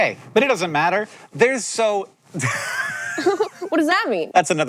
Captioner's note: laughs